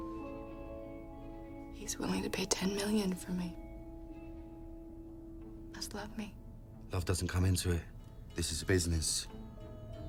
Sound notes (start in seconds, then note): none